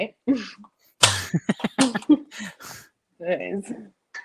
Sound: both laughing

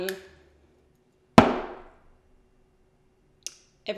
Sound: bottle bangs on table

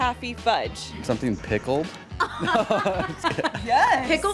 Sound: laughing

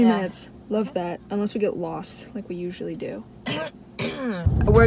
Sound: clears throat

